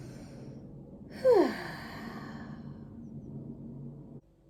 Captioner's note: a slightly louder exhalation and sigh